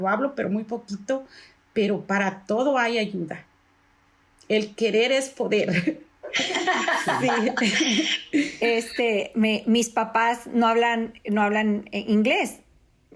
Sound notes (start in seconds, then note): 6.3 laugh